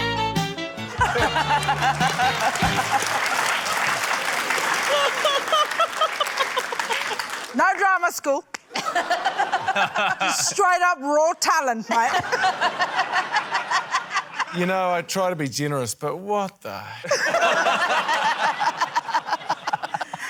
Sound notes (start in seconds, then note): 0.0 quirky theme music; 0.8 laughter, applause; 4.6 laughs; 8.7 laughter; 13.4 laughter; 17.0 laughter